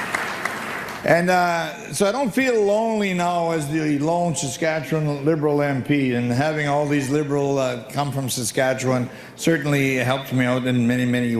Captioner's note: applause